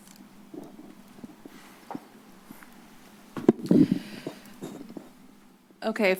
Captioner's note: silence